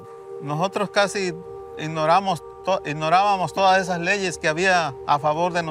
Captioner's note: speaking in Spanish